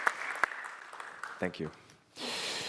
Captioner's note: applause